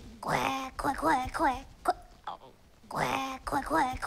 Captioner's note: Deborah quacks